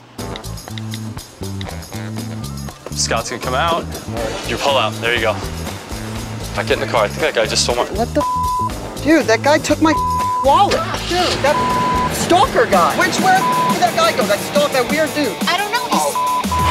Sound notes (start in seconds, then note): 0.2 whimsical music; 8.2 beep; 13.2 beep